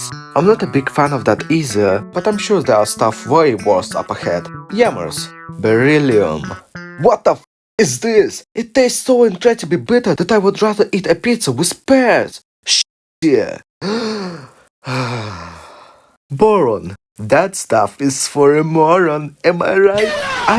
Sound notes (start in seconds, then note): 14.8 inhale; 14.8 exhale